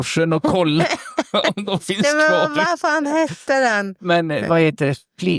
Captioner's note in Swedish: skratt